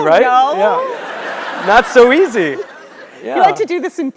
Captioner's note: laugh